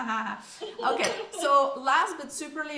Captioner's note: laughs